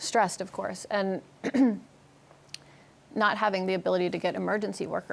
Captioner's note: clears throat